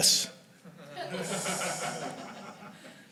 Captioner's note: laughter